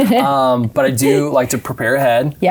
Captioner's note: laughing